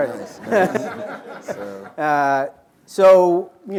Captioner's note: laughter